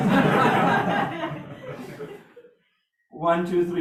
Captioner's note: more laughs from the audience